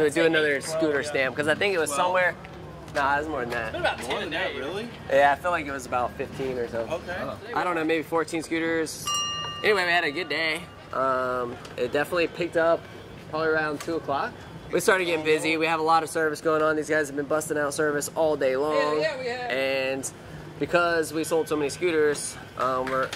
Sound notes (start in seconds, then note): 9.0 dinging